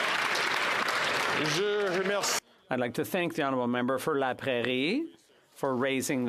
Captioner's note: some Applause